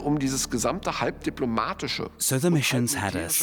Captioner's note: speaking German